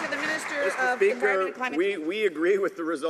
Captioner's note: some Applause